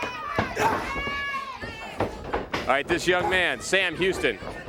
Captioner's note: crowd cheering